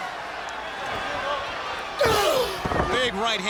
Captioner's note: crowd cheering